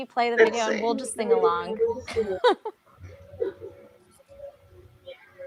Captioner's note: laughs